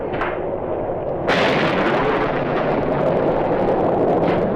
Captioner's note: thunder crashes